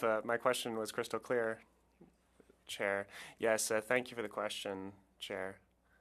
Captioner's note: speaking French